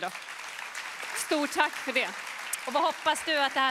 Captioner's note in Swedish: Applåder